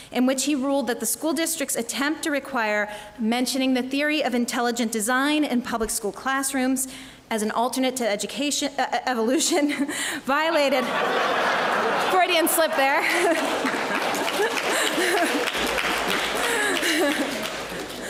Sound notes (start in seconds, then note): 11.4 laugh; 13.1 applause; 14.8 laugh